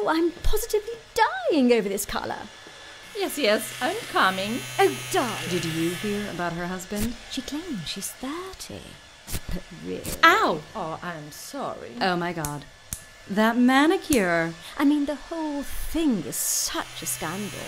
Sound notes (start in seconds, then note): 6.8 wax strip pulling; 9.3 wax strip pulling; 12.8 clipping noise; 17.4 buzzing